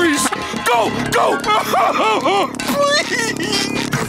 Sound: sobbing

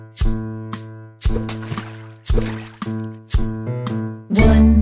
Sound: water splashing

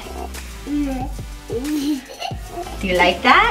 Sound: giggles

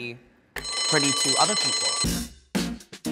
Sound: bell rings; upbeat music

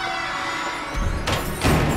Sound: door squeaking; door closes

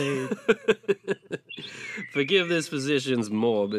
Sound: laughing

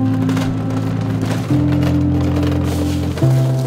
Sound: cart wheels rattling

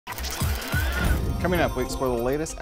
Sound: gear sounds

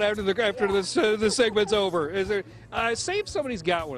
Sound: laughter

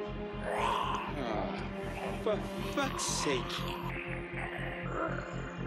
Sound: snarling

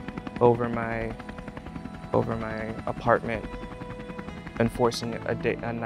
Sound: helicopter blades swooshing

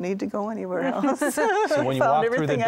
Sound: laughter

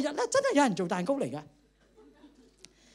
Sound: laughter

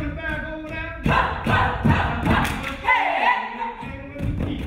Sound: dancers screaming

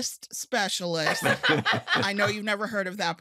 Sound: all laughing

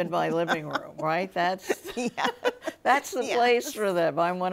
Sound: both laughing

